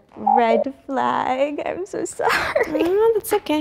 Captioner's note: buzzer sounds